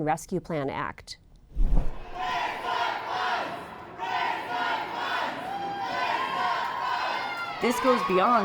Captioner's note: chanting